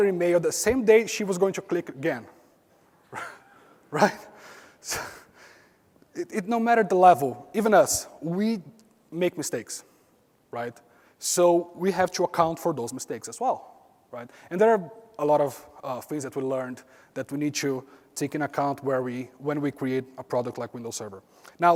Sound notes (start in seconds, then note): 5.1 laugh